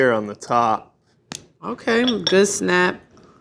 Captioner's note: chocolate snaps